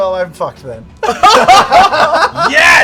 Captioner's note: laughter